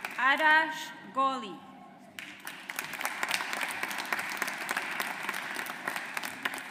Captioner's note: audience applauds